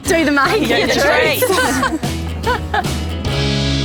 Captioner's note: laughter